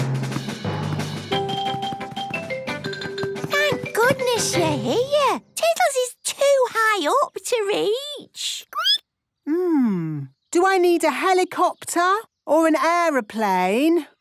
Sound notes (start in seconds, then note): 0.0 rapid music; 7.9 squeaking